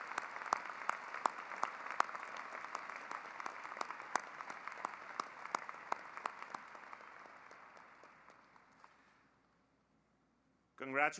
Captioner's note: applause